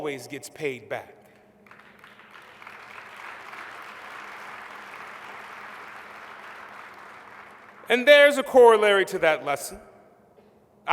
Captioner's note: applause